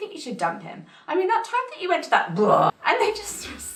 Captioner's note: mimics vomiting